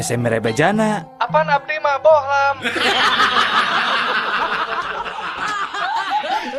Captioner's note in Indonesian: tertawa